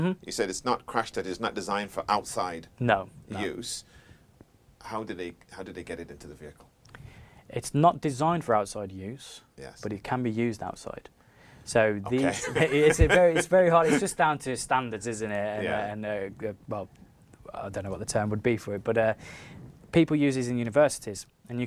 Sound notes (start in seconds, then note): 12.2 laughs